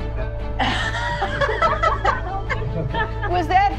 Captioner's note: all laugh